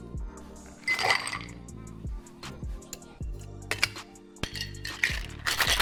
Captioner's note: ice clinking in glass; cocktail being shaken